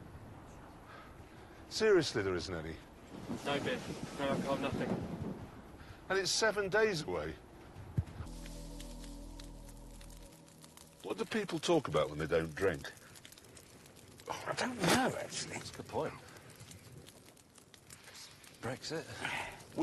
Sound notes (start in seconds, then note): 15.4 spits